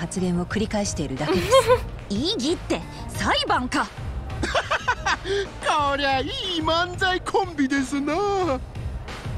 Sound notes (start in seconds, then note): 1.3 chuckles